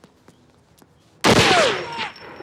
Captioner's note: gunshot